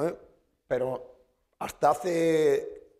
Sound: speaking spanish

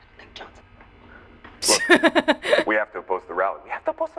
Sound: chuckles

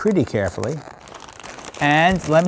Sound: bag rattling

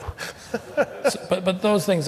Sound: laughter

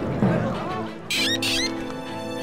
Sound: quacking

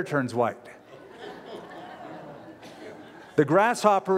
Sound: laughter

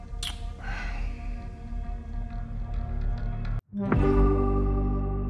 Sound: smacks lips; synth music

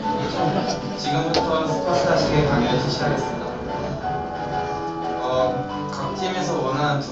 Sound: thunder

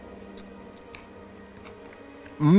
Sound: crunching

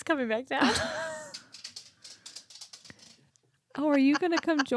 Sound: dog nails clacking

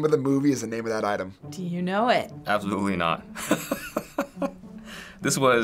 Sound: laughing

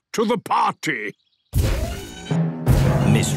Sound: thudding, mechanical whirring

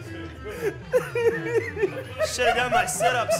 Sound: men laughing

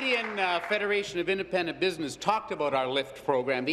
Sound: applause

